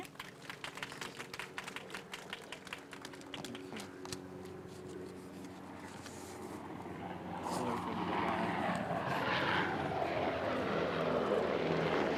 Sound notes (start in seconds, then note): 0.0 applause; 0.0 sound of airplane